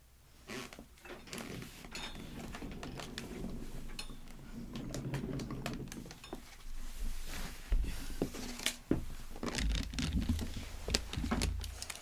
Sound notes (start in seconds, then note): 1.0 wheels running on the floor